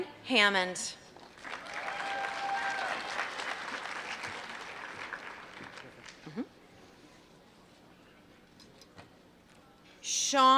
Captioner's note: applause